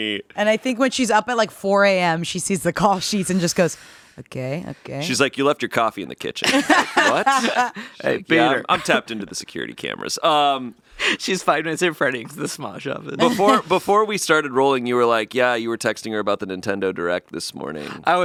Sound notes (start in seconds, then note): 6.4 laugh